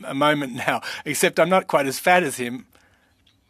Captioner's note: speaking French